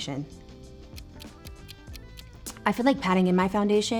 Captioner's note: timer ticking